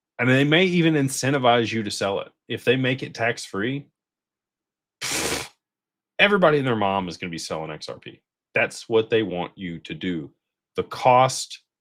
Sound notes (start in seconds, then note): 5.0 snorts